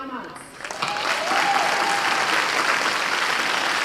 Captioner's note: applause